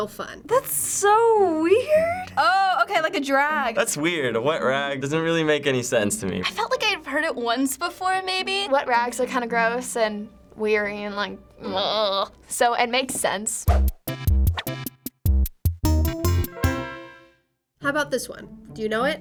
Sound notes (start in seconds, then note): 11.7 groans; 13.6 quirky interlude